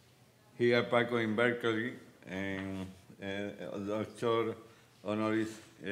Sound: speaking Spanish

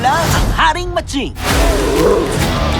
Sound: roars

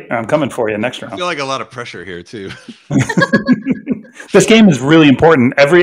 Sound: all laughing

